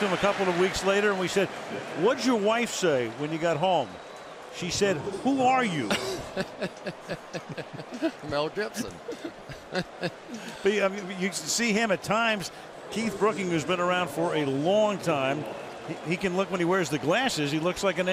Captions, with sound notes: we talked to him a couple of weeks later. And we said, what'd your wife say when you got home? She said, who are you? [laughter] Mel Gibson. [laughs] But you see him at times, Keith Brooking, who's been around for a long time, he can look when he wears the glasses,